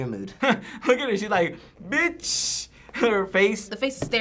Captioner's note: chuckling